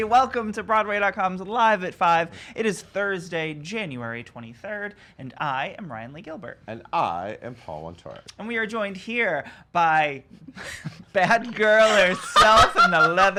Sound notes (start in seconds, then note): 10.4 chuckles; 11.4 laughs